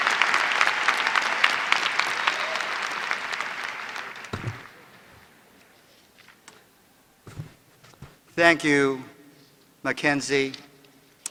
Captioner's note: applause